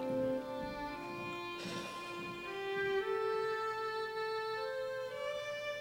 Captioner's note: Margaret sighs